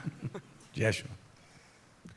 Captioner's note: laughter